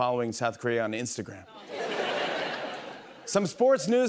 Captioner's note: laughter